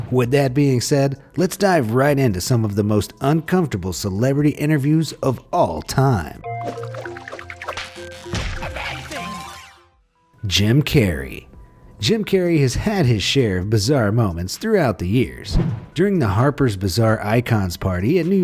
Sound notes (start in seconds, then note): 6.7 character whooshes; 6.7 light music; 8.3 slap lands; 8.6 character babbles